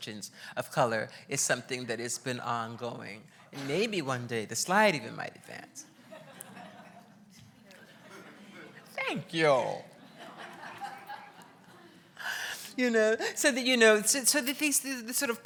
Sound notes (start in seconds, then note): 7.5 laughs